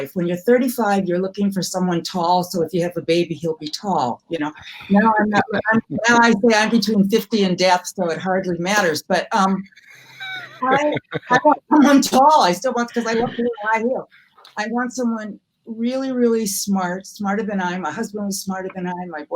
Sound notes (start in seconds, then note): 4.6 hosts laughing; 9.9 hosts laughing; 13.2 mumbles